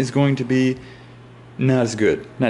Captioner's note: inhale